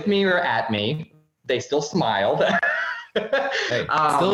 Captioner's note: laughing